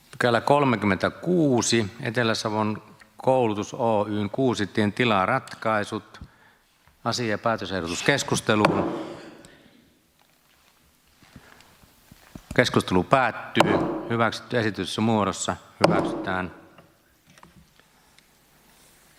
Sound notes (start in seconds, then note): 8.6 Nuijan kopautus; 15.8 Nuijan kopautus